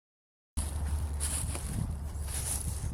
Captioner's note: footsteps